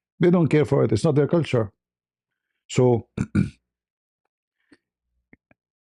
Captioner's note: berdehem